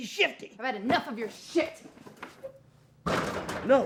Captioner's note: door rattling